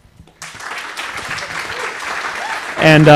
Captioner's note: applause